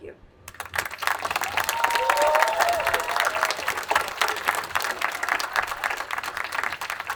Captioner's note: attendees applauding and cheering